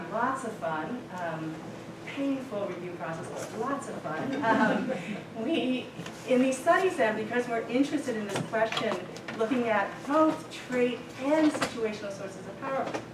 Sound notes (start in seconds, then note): 4.3 laughter